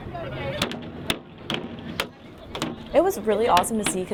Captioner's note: hammering